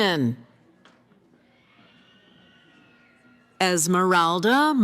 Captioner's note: cheering